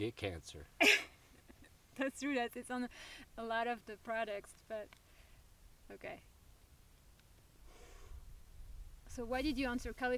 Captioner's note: laughs